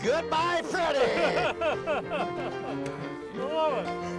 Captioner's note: laughing